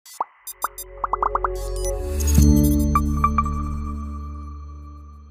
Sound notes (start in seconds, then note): 0.1 electronics beeping; 2.4 ethereal music